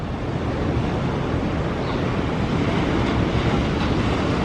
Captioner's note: wind blowing